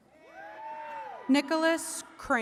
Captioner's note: attendees cheering